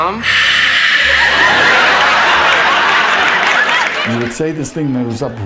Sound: hisses

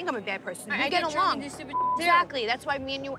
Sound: beep

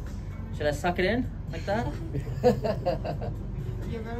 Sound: laughters

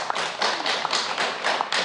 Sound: applause

